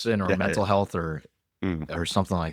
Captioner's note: laughs